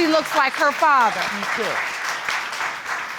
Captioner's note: applause